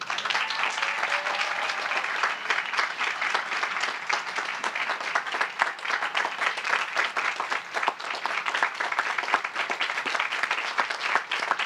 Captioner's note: applause